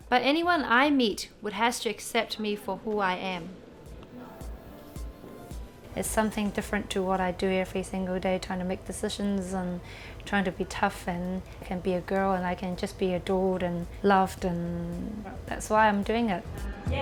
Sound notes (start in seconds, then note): none